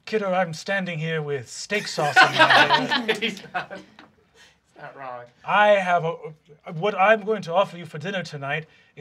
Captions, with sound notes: - Kiddo, I'm standing here with steak sauce on my hair. (group laughing) - Steak sauce. - What I'm going to offer you for dinner tonight